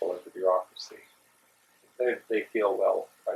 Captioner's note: pause